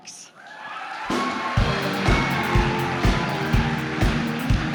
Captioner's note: cheering and applause